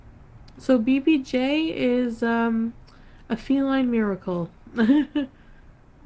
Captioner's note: laughs